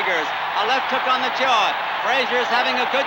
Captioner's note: crowd cheering continues